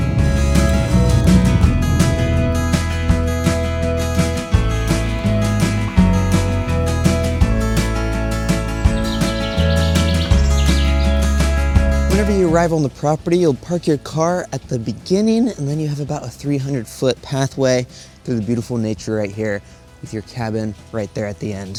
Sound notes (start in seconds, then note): 0.1 upbeat music continues; 7.4 birds chirping